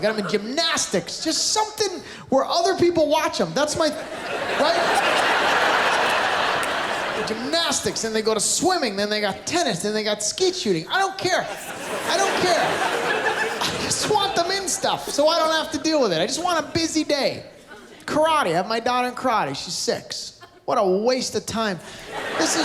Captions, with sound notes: I've got them in gymnastics, just something where other people watch them. That's my...right? Gymnastics, then they go to swimming, then they got tennis. Then they got skeet shooting. I don't care. I don't care. -[Laughter] -I just want them in stuff, so I don't have to deal with it. I just want a busy day. Karate, I've got my daughter in karate. She's six. What a waste of time. -[Laughter]